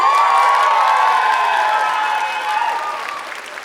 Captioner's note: applause